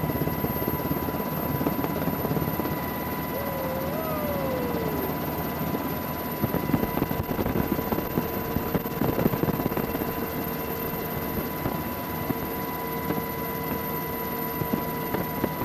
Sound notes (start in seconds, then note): 4.1 helicopter Noises